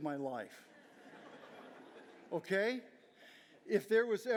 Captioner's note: audience laughing